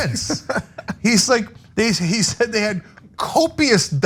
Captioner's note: laugh